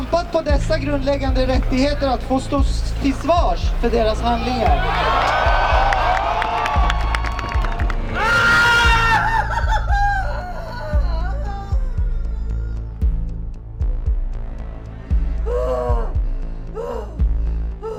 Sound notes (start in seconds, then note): 8.1 screams of pain; 8.1 threatening ambient music with pulsing rhythm